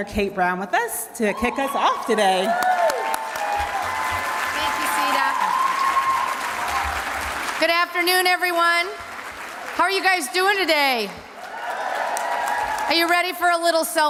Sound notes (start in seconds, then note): 4.3 cheers and applause